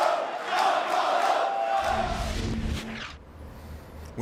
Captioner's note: fans chanting